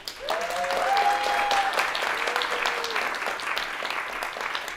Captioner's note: audience applauding